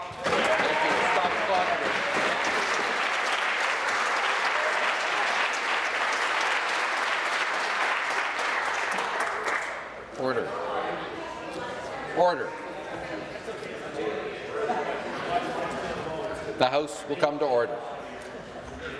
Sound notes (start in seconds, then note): 5.3 applause